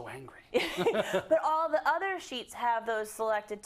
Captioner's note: laugh